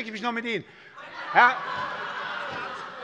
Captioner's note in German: Heiterkeit und Beifall bei der SPD